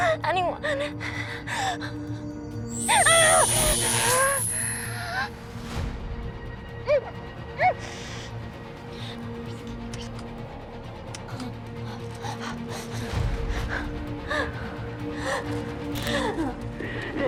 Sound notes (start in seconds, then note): 2.7 electricity buzzes; 2.8 Kira groaning; 5.7 tense suspenseful music; 15.4 tense suspenseful music continues